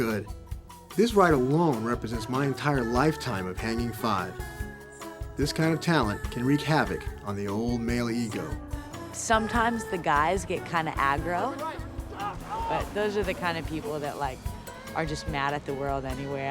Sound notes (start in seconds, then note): 11.3 shouting